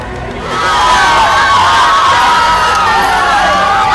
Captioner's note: cheering